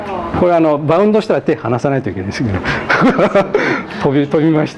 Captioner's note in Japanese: 笑い